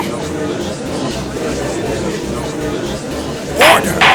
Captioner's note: gallery chattering